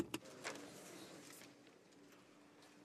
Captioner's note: speaking French